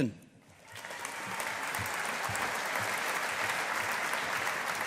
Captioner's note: audience applauding